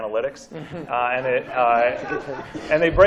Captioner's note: laughter